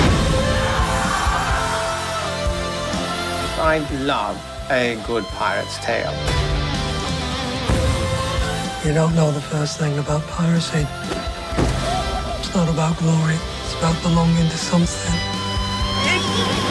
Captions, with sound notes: (CHEERING) I love a good pirate's tale. You don't know the first thing about piracy. It's not about glory. It's about belonging to something.